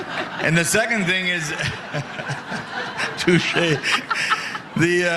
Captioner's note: laughter